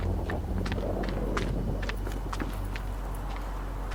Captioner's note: footsteps slow down